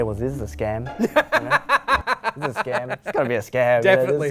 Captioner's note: laughter